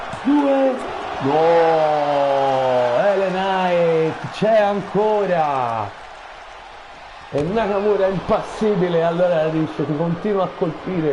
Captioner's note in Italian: Applauso